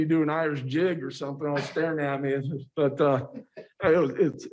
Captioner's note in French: laughter